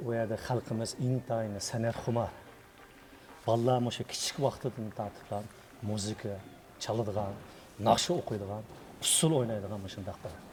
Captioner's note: speaking in Chinese